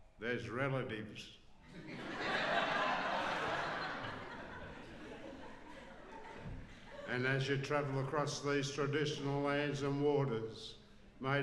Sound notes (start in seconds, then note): 4.7 laughs